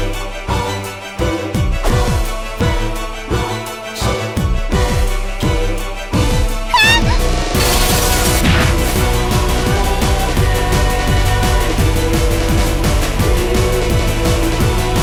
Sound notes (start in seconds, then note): 6.7 screams